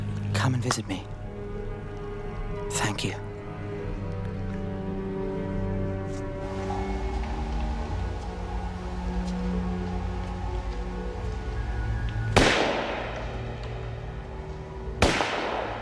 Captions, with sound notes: Come and visit me. Thank you. [gunshots]